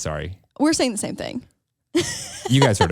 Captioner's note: laughs